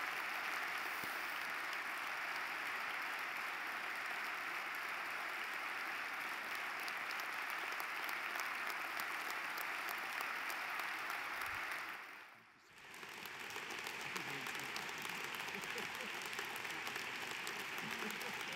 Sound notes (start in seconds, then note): 12.0 laugh; 13.3 applause